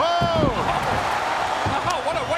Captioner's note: audience cheering